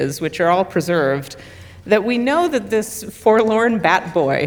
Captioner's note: none